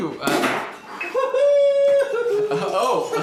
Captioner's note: popping cork